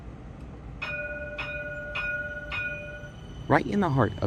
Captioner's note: streetcar bell